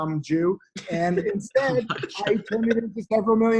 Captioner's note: laughter